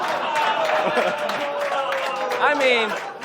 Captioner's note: audience laughs